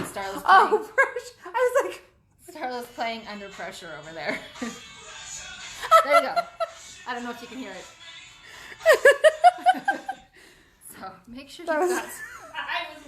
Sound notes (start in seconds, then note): 5.8 laughs Loudly; 8.8 laugh